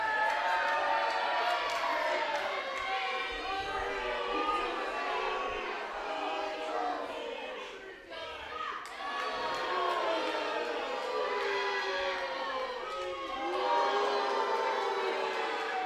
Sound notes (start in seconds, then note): 0.1 crowd cheers; 4.0 crowd boos; 8.4 crowd boos louder